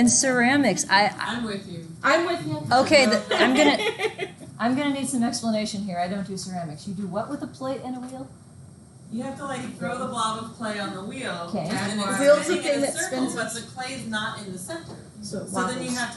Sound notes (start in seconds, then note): 3.1 student laughs